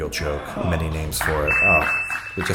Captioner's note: timer beeping